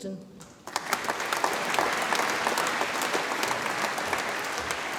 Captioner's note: audience applauds